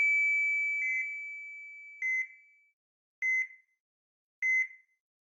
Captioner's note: machine beeping